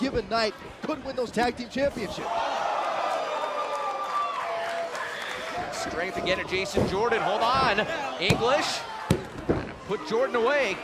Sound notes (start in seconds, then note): 2.0 crowd cheering